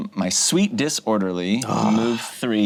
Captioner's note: groans